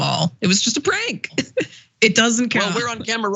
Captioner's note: laugh